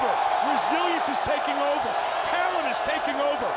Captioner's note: crowd cheers